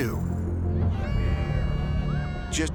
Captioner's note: party horns blowing